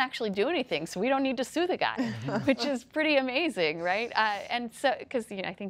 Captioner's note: laughter